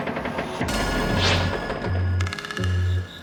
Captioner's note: whoosh